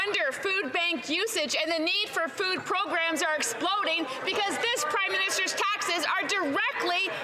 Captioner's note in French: voix de l'interprète